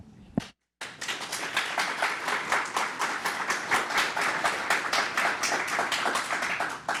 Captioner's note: applause